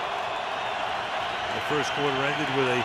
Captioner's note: cheering